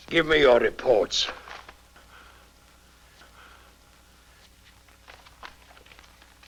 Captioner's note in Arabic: الدجال يتنفس بصعوبة